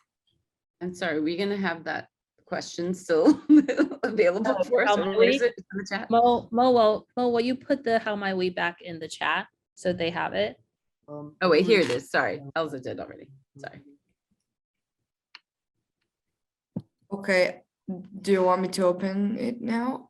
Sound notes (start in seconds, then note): 4.4 laughs